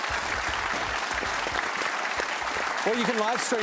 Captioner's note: applause